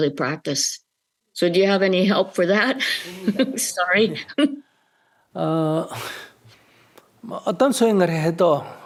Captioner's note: questioner laughter